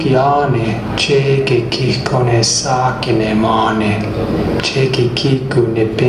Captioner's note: male voice speaking in Indigenous Myaamia language